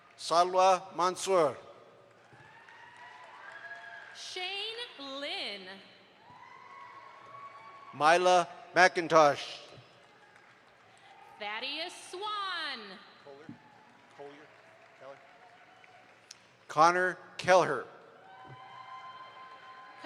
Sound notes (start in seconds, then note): 2.0 audience applauds; 6.3 audience applauds